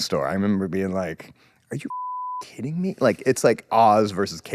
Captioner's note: beep